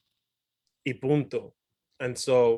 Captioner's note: speaks Spanish